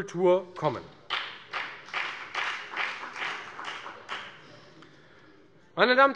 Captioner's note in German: Beifall bei der FDP